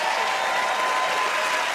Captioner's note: cheers and applause